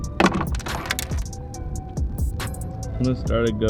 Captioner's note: intense music; pliers clank